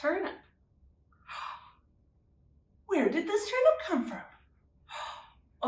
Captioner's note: gasps